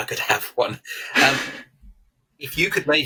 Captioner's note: chuckles